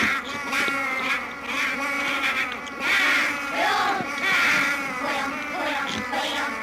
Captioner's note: mechanical sounds continue